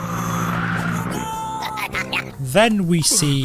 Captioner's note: bottle laughs